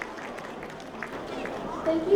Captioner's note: applause